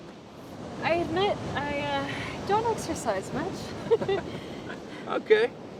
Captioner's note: laughs